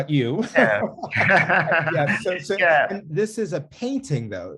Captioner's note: laughing